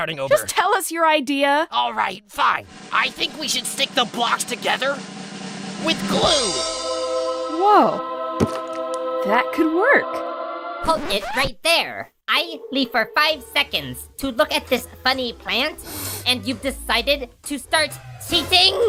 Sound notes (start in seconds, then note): 10.8 record scratch; 15.8 Saw sniffs